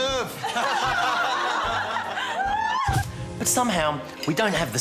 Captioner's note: all laugh